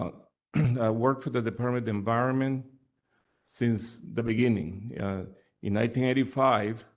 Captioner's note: cough